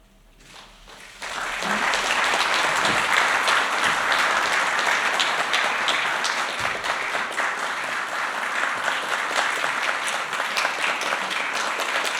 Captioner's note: applause